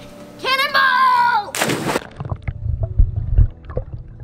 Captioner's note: splash